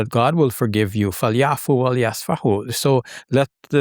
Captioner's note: speaking in foreign language